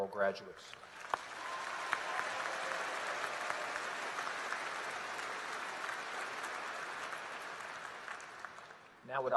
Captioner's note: applause